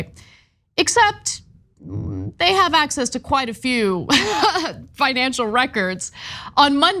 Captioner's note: laugh